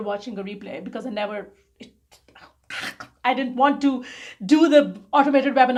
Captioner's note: gags